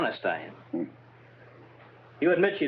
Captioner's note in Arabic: هانك يتذمر